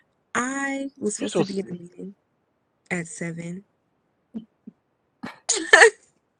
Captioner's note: laughs